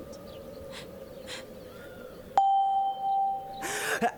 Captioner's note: Pia sobs